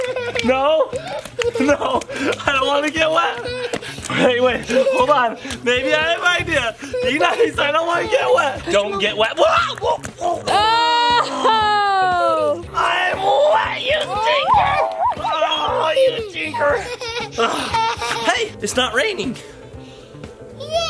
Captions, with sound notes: - No, no, no, I don't want to get wet. Hey wait, hold on. Maybe I have an idea, you got me so I don't want to get wet. Don't get wet. - Oh. (laughs) - I'm wet, you little stinker. Oh, you stinker. (laughs) - Hey, it's not raining.